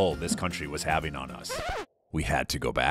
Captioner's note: record scratch